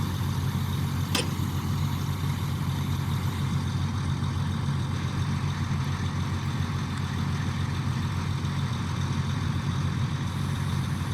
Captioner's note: engine noise